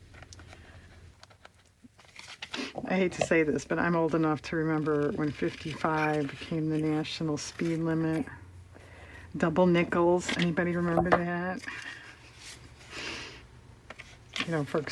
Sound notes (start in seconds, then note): 13.6 laughs